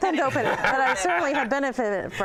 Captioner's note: laughter